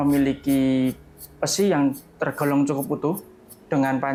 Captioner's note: tang